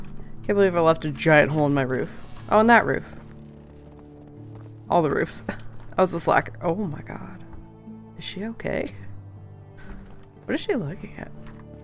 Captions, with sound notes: I can't believe I left a giant hole in my roof! Oh and that roof... all the roofs *laughs* I was a slacker- oh my god. Is she okay? What is she looking at?